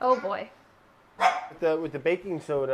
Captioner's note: dog barking